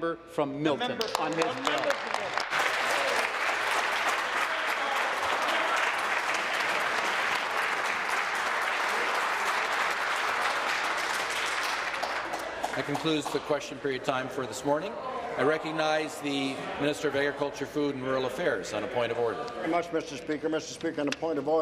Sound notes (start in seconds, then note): 5.8 applause